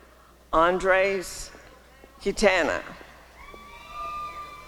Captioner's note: applause and cheering